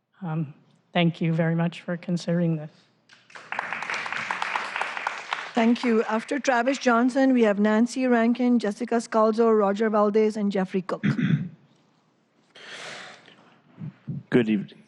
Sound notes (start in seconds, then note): 6.3 applause